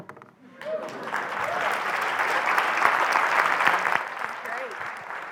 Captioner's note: applause